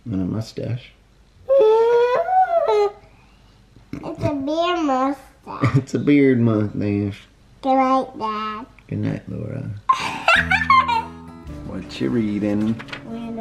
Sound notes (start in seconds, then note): 1.6 exclaiming; 9.9 giggling